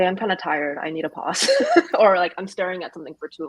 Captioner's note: laughs